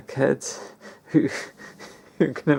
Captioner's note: lols